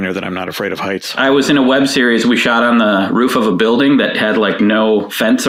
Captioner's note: none